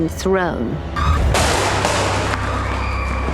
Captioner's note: crash; screaming